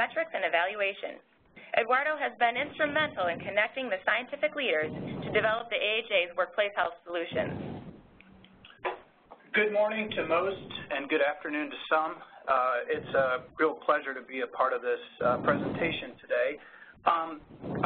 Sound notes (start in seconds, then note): 9.5 voiceover